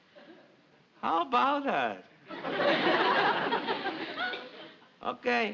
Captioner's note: audience laughs